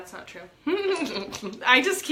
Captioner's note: laughs